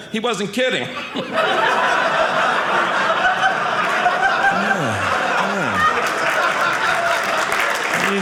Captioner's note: audience laughing; audience applauding